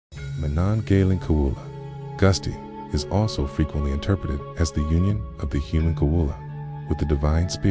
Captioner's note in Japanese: アラビア語で